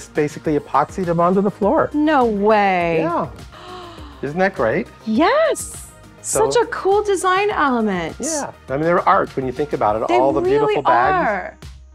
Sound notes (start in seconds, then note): 3.5 gasping